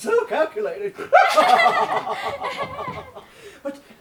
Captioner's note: both laugh